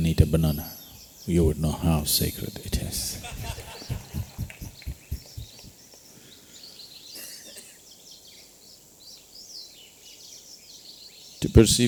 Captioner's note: laughter